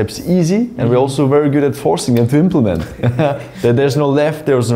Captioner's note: laughs